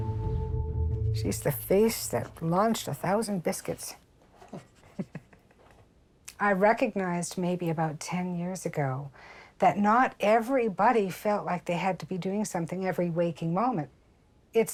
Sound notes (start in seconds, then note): 4.4 chuckling